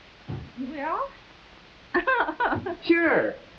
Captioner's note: Myrtle laughing